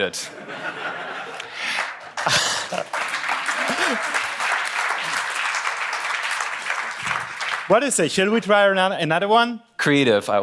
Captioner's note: applause